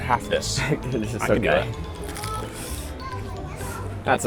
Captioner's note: laughing